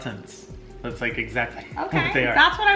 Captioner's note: laughs